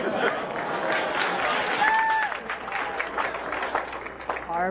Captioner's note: laughter; applause